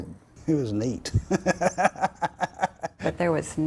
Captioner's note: laughs